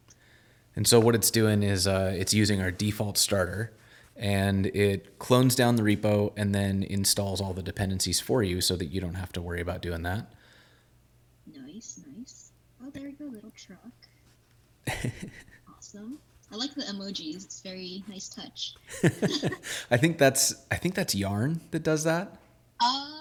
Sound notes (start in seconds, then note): 14.8 laughing; 18.8 laughing